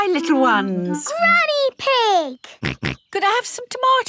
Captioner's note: snorts